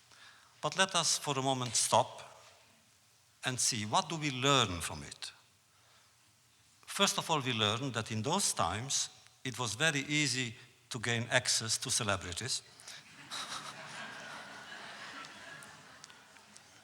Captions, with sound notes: But let us, for the moment, stop and see, what do we learn from it? First of all, we learn that in those times, it was very easy to gain access to celebrities. (audience laughs)